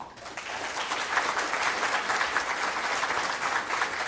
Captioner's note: crowd applauds